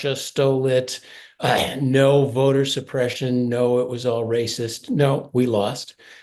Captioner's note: cough